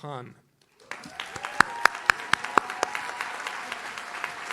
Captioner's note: audience cheers